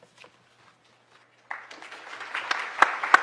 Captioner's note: applause